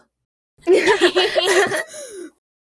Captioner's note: Everypony laughs